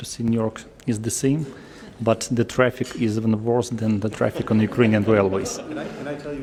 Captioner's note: laughter